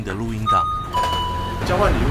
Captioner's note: 7-11 store door opens